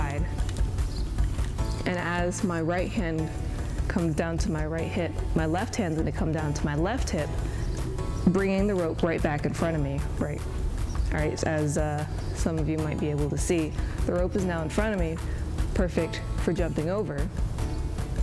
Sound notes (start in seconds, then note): none